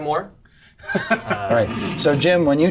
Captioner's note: laughs